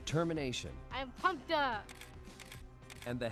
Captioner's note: camera clicks